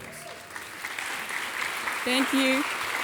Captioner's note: audience applauding